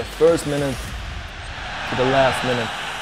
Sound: crowd cheers

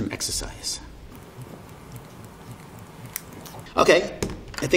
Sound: air hissing

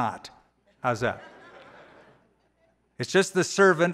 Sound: laughter

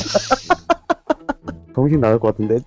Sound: laughter

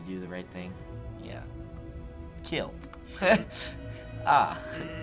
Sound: chuckling

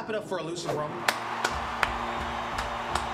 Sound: clapping

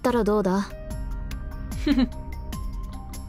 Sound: chuckles

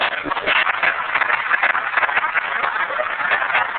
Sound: applause

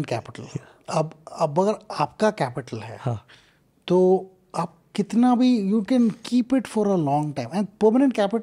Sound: speaks in Hindi

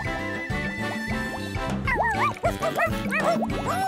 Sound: barking

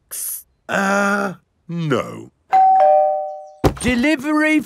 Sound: doorbell rings

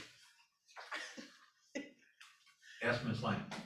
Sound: laughter

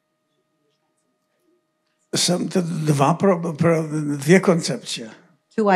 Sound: foreign language

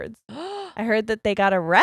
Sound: gasps

